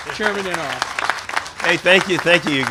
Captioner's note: applause